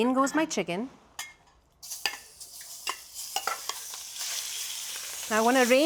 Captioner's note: sizzling